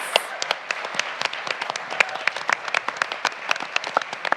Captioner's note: everyone applauds